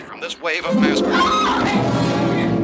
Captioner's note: screaming